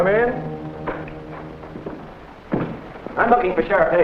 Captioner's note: door opening